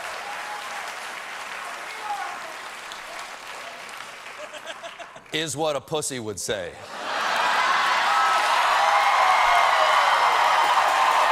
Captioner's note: cheers and applause